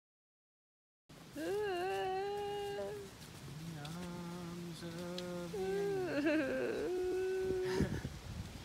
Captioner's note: making sad sounds upon Orion's departure; singing